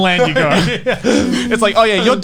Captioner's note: all laughing